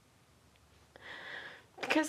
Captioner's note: sigh